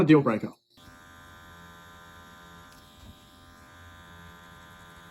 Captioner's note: machine buzzes softly